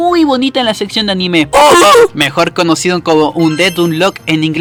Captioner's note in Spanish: voz graciosa imitando las iniciales